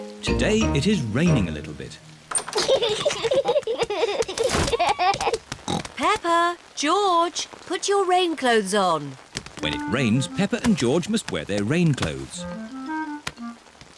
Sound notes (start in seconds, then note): 2.5 both giggling; 5.6 oinks